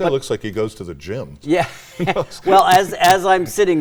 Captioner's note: laughs